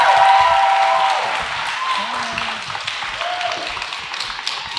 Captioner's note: audience cheers